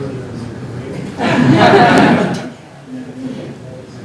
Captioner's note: laughter